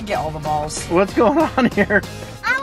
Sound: chuckles

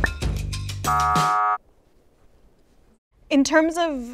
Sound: buzzer sound

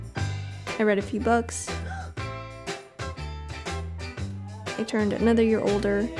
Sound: gasping

